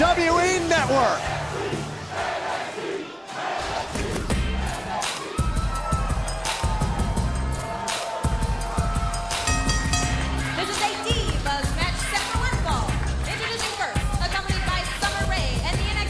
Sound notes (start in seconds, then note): 9.3 bell ringing